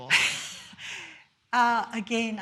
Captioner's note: laughs